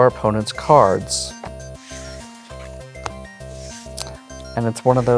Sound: cards slapping and sliding

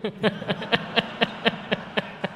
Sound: laughter

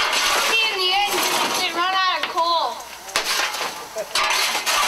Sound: flames crackling

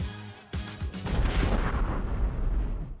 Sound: bomb exploding

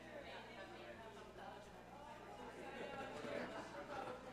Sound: talking quietly

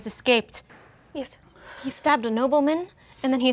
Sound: breathing shakily

